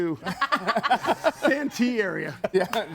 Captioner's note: group laughs